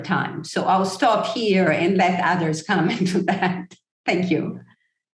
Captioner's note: chuckle